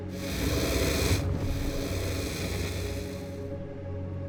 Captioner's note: dragon growls